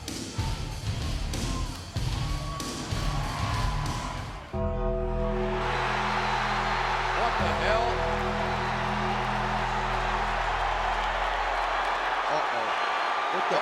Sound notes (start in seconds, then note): 4.6 bell tolls; 5.8 crowd cheers